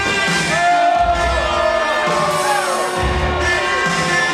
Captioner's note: more boo-ing